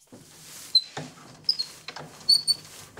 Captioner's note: squeaking